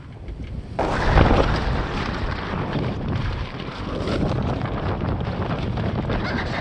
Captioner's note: sound of loud luffing, banging